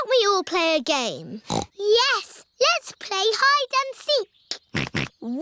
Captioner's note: snorts; snorting